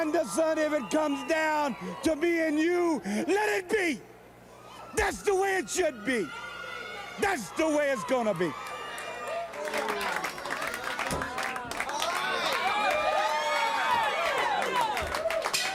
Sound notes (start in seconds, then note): 9.5 crowd chatter; 13.6 crowd cheering